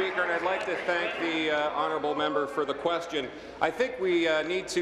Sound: applause

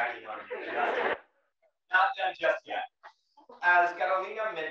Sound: laugh

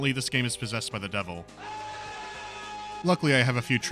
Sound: screaming

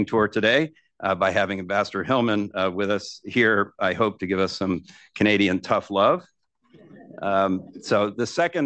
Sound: laughter

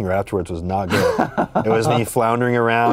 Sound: laughs

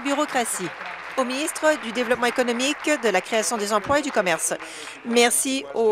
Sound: applause

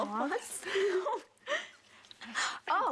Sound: girls giggle

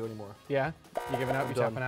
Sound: buzzes

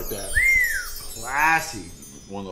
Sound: wolf whistles

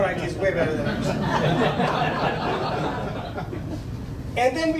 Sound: laughing

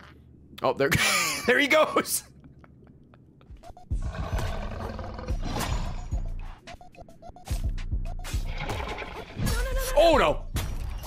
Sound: laughs

